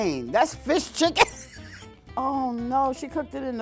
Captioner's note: laughs